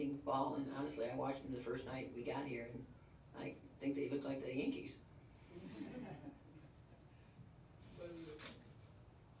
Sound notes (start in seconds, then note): 5.6 laughter